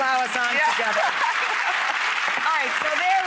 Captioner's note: clapping